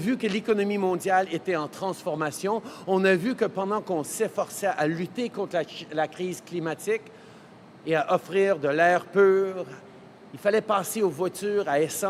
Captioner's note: speaking in french